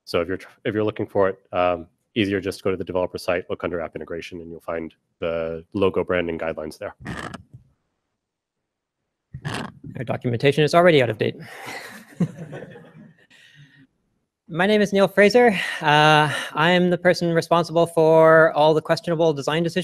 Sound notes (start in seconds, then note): 11.5 laughter